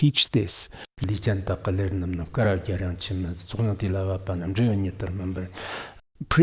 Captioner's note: giving oral transmission in Tibetan